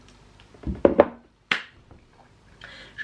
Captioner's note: claps